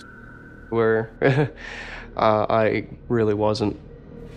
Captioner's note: laughs